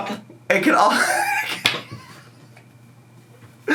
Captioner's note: laughs